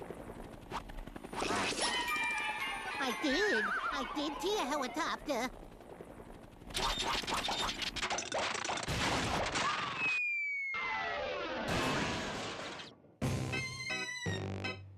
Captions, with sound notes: I DID. I DID SEE A HELICOPTER. [engine sputtering]